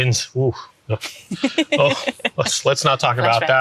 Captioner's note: chuckles